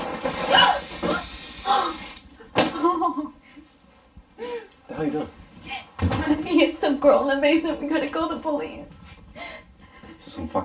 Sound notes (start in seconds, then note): 0.3 thud; 1.6 whimpering